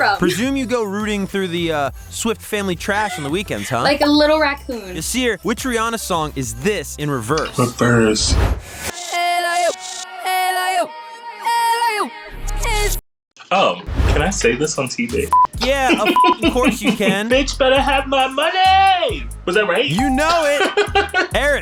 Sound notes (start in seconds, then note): 8.9 song playing in reverse; 15.3 beep